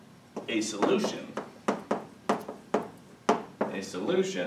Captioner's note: chalk tapping